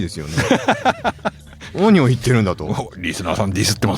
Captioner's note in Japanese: 笑い